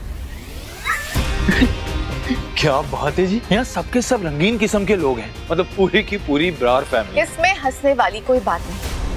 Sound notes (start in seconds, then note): 1.3 chuckling